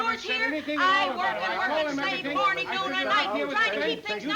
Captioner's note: both chattering